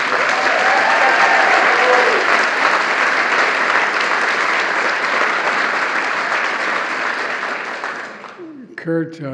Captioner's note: applause